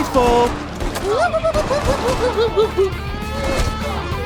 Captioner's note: humanoid crab doctor scuttling sounds